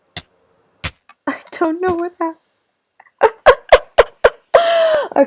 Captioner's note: laughter